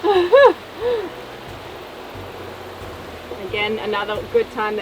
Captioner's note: laughs